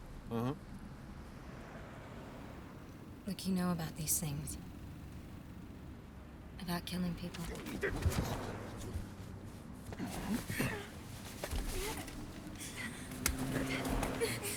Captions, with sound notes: - Uh huh. - Look, you know about these things, about killing people. (both grunting) (Gage whimpering)